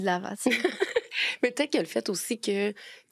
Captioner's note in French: rire